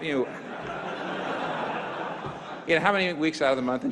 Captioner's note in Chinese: 會眾笑